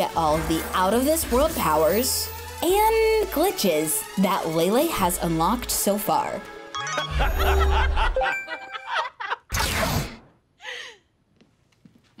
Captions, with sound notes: and the glitches that Lay Lay has unlocked so far. [laughing] Mom? Dad? Why'd you stop laughing?